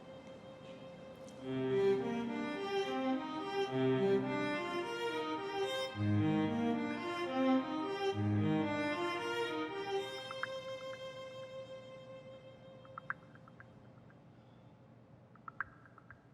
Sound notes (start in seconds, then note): 1.9 gentle music; 10.6 cellphone clicking